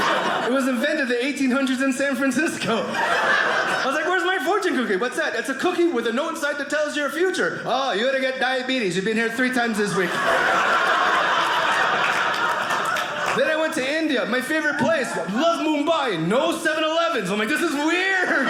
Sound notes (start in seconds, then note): 9.8 audience laughing